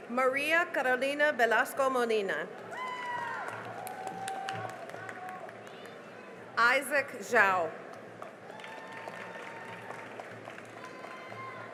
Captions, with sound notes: Maria Carolina Velasco Molina [CHEERING AND APPLAUSE] Isaac Zhao [CHEERING AND APPLAUSE]